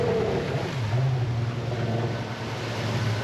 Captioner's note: boat engine running